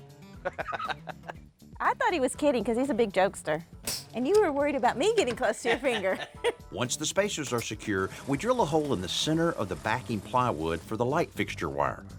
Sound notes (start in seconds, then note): 0.4 laughs; 5.6 both laugh